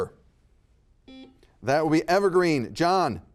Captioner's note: buzzer beeping